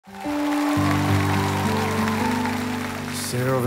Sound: crowd cheering

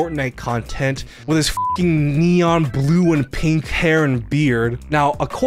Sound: beep

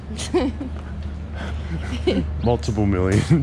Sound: laughter

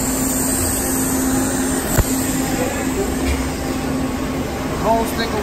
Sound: welding torch sizzling

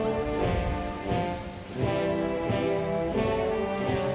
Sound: none

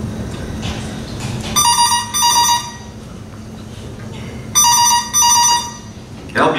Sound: phone ringing

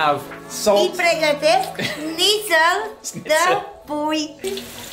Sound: speaking Romanian

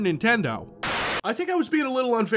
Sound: TV buzzing

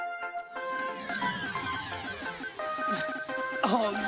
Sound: video game beeping

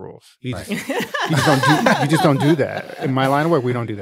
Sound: laughing

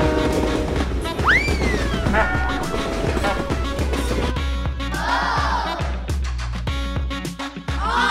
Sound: train sounds and music

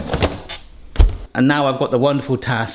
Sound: drawer clunks; door thuds shut

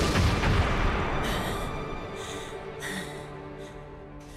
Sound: panting

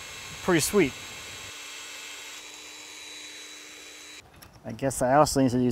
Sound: drilling machine running

